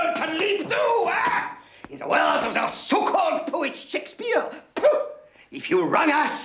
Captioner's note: spits